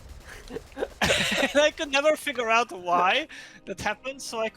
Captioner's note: chortling; laughs